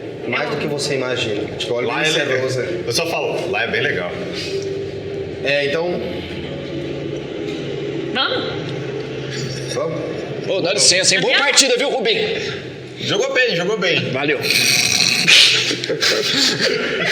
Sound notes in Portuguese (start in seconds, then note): 9.2 risada; 15.5 risadas